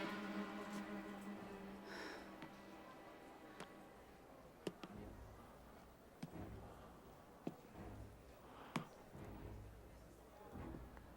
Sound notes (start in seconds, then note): 1.7 Matt breathing heavily